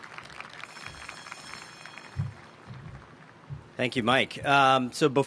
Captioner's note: applause